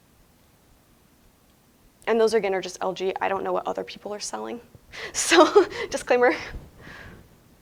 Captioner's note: laughing